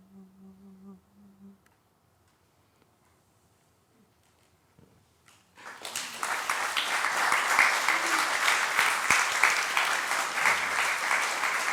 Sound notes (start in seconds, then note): 5.5 applause